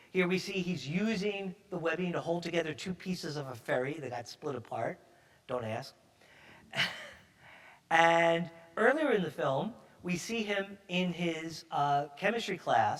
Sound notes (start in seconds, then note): 6.7 chuckles